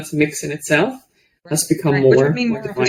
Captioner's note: faintly speaks